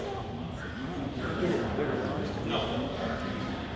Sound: crowd murmuring

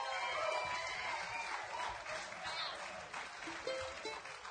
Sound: audience applauding

